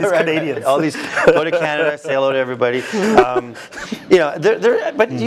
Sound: laugh

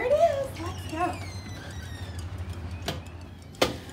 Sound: door squeaking as it opens

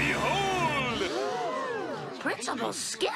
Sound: everyone gasps

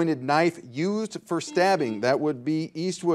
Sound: buzzer dings

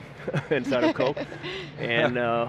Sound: laughter

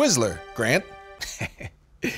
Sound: chuckles

